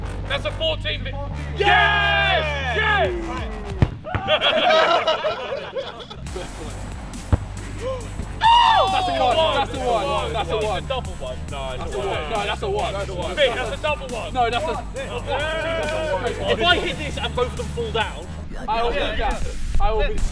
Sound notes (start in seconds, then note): 3.6 punting ball; 4.1 laughter